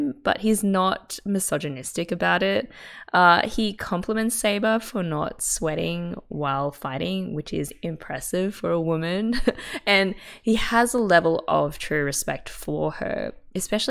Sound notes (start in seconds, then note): 9.0 laughs